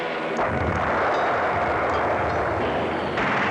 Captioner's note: guns blasting; explosion blasts; airplane engines whirring; guns blasting